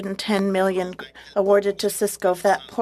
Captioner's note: speaking French